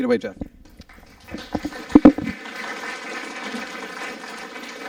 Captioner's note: applause